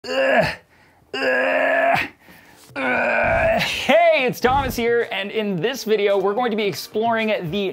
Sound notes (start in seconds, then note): 0.0 grunting